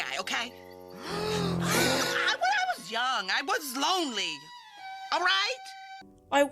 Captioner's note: shocked gasps